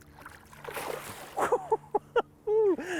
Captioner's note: splashing; laughing